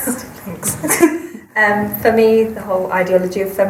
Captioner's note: laughs